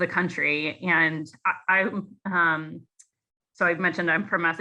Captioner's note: speaker stutters